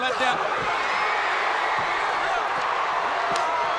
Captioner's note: crowd cheering